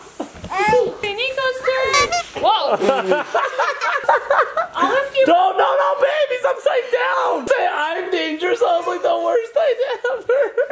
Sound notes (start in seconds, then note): 7.3 laughing